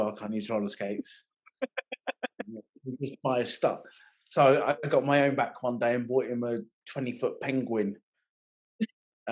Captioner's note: laughing